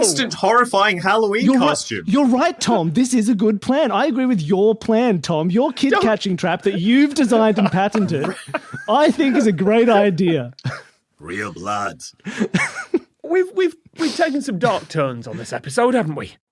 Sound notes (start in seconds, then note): 9.8 laugh; 12.3 giggles